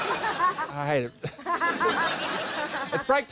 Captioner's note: laughter